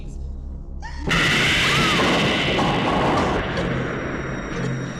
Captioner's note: girls screaming; loud explosion; suspenseful music